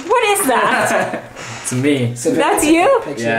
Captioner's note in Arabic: يضحك